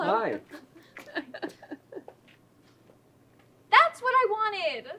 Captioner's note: laughing